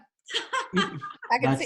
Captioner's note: laughs